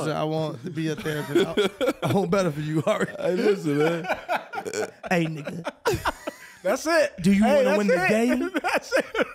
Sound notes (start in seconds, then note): 0.9 laughing; 5.2 impersonating